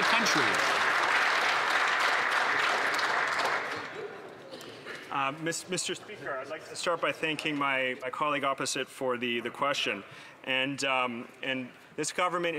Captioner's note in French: voix de l'interprète